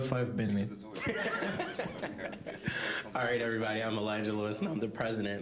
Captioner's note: laughing